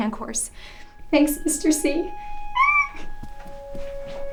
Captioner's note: squeals